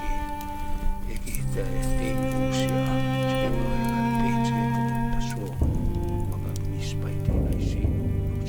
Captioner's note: speaking in cree